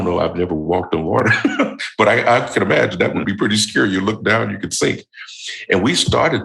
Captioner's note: chuckle